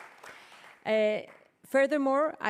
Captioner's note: applause